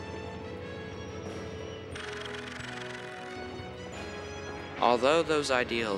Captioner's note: mechanical sounds